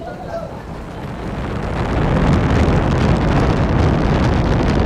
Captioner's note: rocket engines roaring